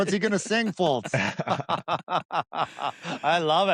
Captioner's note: laughter